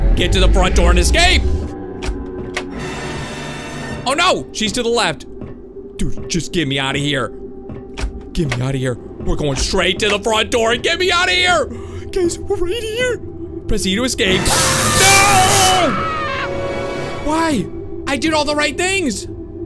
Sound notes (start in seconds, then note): 14.3 trumpets blare; 14.4 screaming